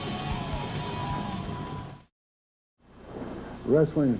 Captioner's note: crowd cheering